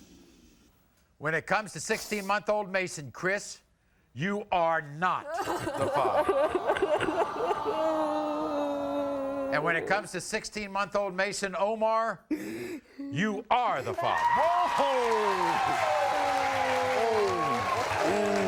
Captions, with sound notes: - When it comes to 16 month-old Mason Chris you are not the father. (crying) And when it comes to 16 month old Mason Omar you are the father. (applauding)